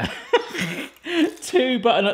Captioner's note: laughing